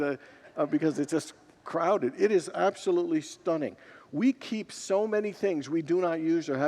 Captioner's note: congregants laugh